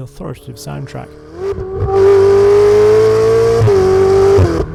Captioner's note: car engine revving